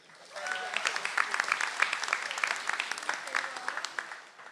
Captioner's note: audience applauds